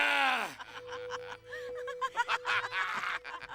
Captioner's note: laughter